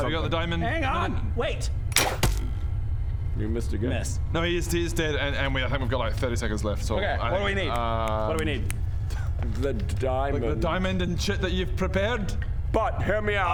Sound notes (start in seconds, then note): 1.9 twang; 2.0 thunk